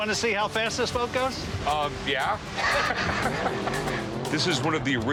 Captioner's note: chuckling